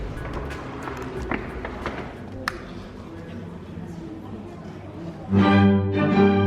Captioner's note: footsteps ascending rapidly